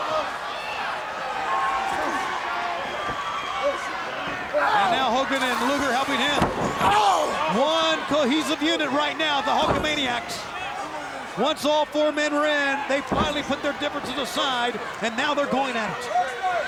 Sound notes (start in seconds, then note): 0.1 crowd continued cheering; 2.1 wrestler grunts; 5.3 body slamming; 6.7 wrestler grunts